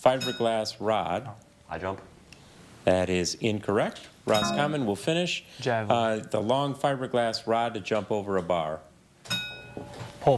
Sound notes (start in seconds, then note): 1.0 bell dings; 4.3 buzzer buzzes; 4.3 bell dings; 9.2 bell dings